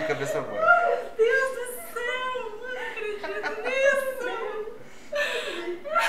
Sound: laughs

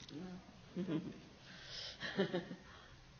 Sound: laughs

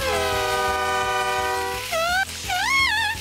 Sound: screaming

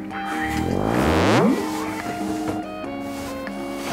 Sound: companion bellows

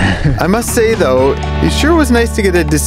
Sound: narrator voiceover

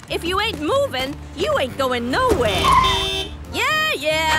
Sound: honking

